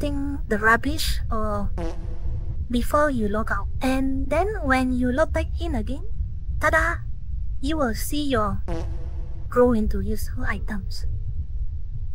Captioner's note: fart